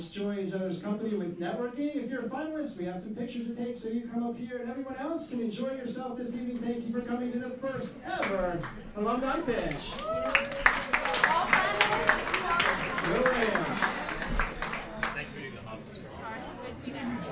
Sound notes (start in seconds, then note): 9.5 cheering and applauding